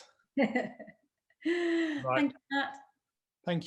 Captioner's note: laughs